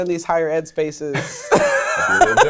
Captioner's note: laughing